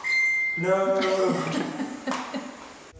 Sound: phone dinging

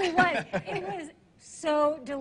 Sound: laughing

